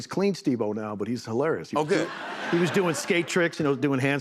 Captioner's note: laughter